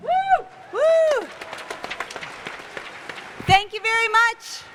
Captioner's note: cheers and applause